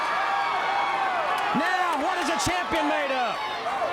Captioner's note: crowd cheering